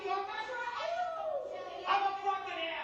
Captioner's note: yelling